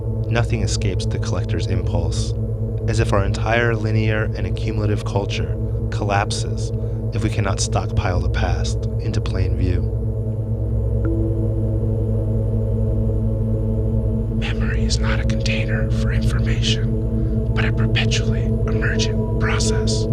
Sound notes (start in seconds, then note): 14.5 whispering